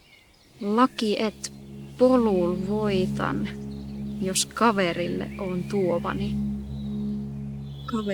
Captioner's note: speaks in Muinein language